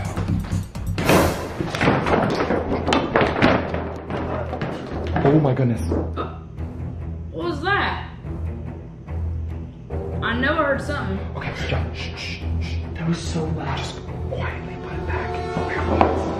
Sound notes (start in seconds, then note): 0.9 loud clanking; 8.5 dramatic instrumental music